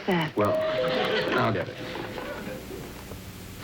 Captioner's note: door bell ringing